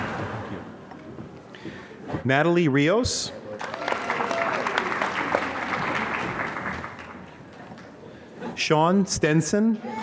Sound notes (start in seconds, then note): 3.5 applause